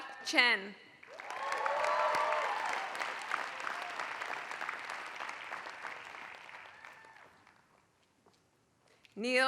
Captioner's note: applause